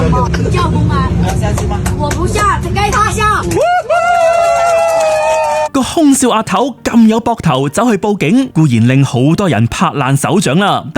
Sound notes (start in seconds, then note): 2.5 crowd cheers